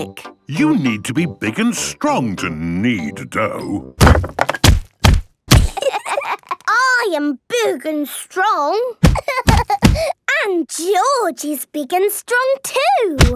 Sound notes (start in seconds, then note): 4.0 banging; 9.1 banging